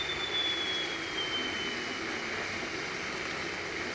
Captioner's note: the kettle quiets down